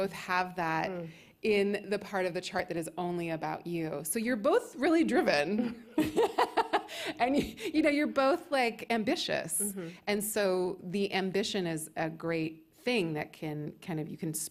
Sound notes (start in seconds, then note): 5.7 laughs